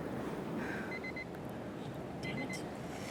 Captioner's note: beeping